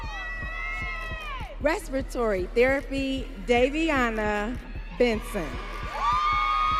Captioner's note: audience cheering